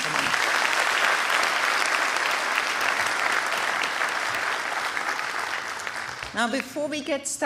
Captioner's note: applause